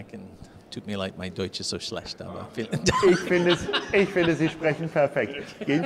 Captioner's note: laughing